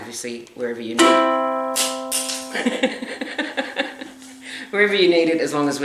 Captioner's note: ukulele strings being hit, followed by a clatter; laughter